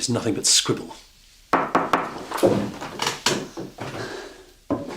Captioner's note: Mengetuk pintu